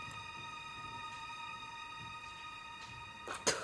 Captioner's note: spits